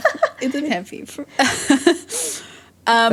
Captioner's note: both laugh